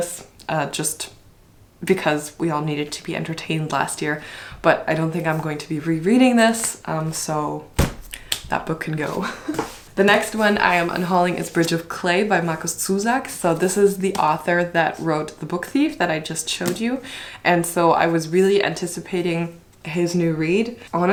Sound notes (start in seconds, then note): 7.7 book thumps; 8.8 laughs